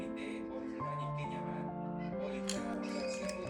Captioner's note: snap